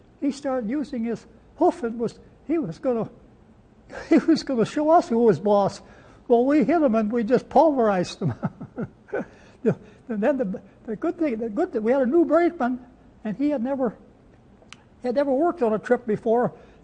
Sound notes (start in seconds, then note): 8.2 laughs